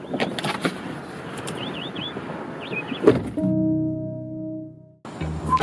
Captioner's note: door opens; door shuts